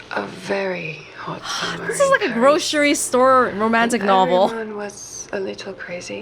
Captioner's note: exhales